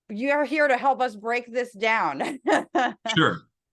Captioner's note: laugh